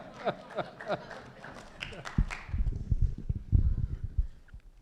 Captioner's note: laughter